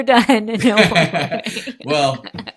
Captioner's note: laughing